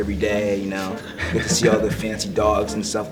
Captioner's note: laughs